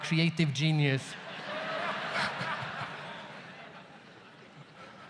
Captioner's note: audience laughs